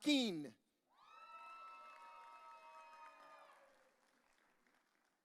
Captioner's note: audience cheering